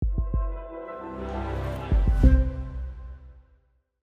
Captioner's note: sound wave